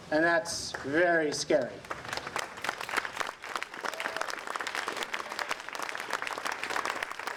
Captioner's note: applause